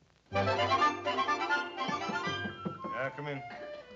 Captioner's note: knocking